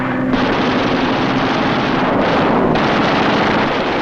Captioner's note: guns firing